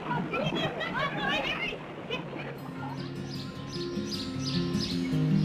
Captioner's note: children laughing